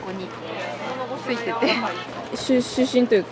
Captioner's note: laughs